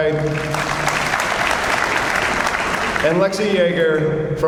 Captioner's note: audience applauds